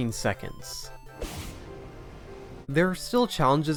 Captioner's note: parry release sound